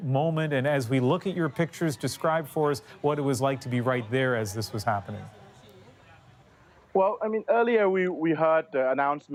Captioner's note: cheers and Applause